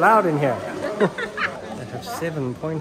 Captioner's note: both laughing